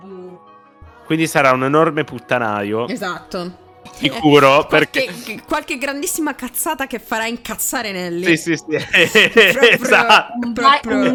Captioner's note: agreeing and laughing